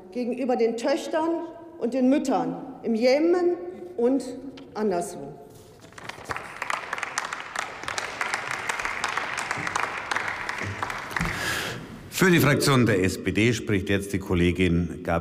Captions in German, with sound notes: gegenüber den Töchtern und den Müttern im Jemen und anderswo. (Beifall bei der LINKEN sowie bei Abgeordneten des BÜNDNISSES 90/DIE GRÜNEN)